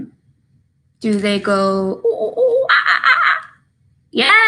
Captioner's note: makes monkey noises